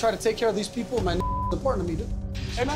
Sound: beep

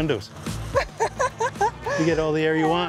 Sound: laughs

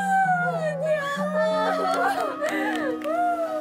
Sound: hugging and crying

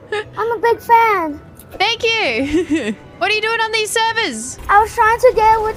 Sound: laughs

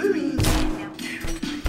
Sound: crash

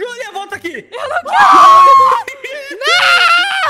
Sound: screams

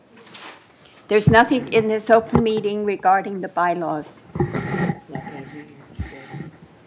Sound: speaking off microphone

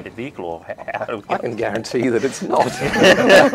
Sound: laughing

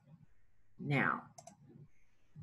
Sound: mouse click

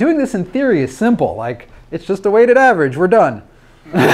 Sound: laughs

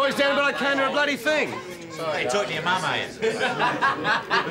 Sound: laughs

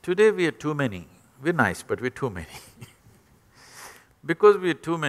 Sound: laughs

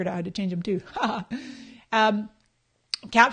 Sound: laughing

